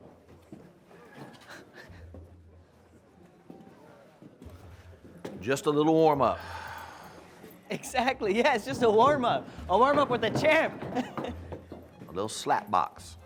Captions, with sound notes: [Caleb laughing] Just a little warmup. Exactly, yes, just a warmup. A warmup with a champ! [Caleb laughing] A little slap box.